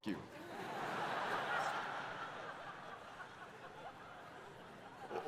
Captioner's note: audience laughing